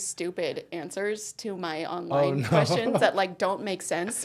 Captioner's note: laughing